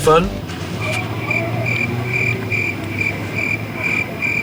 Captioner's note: crickets chirping